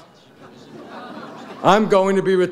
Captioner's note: audience laughs